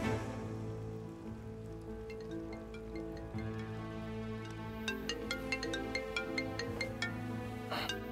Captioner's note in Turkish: Telefon Çalıyor